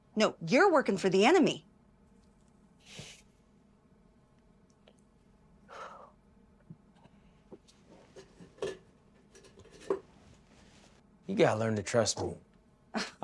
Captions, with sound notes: NO, YOU'RE WORKING FOR THE ENEMY. [FOOTSTEPS] - YOU GOTTA LEARN TO TRUST ME. - [LAUGHS]